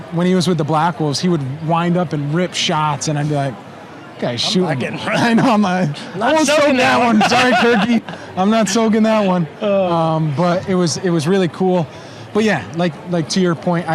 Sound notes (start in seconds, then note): 6.8 laughing